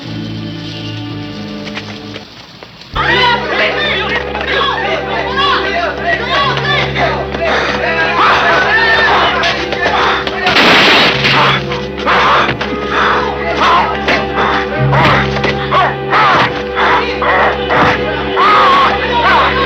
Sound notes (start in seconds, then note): 10.6 Philip growling; 10.6 gunshot blasting; 14.3 Philip growling; 14.4 people clamoring